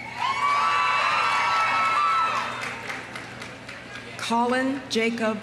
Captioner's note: audience cheering; audience applauding